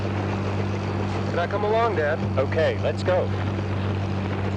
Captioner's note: helicopter flying